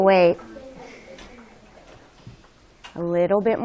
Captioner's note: student chatter